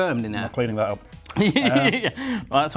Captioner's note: laughing